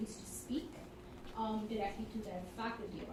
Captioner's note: none